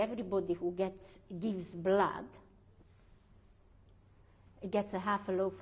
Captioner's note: pauses for 3 seconds